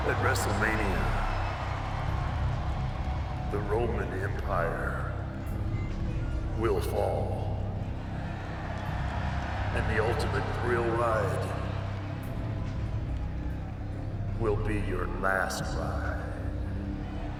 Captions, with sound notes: At WrestleMania the Roman empire will fall, (audience cheers) and the ultimate thrill ride will be your last ride.